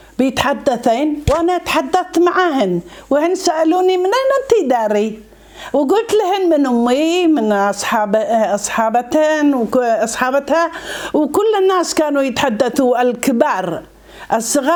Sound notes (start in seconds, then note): 13.6 Arabic